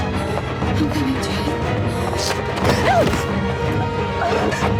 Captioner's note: suspenseful music; heavy breathing